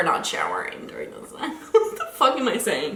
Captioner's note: laughing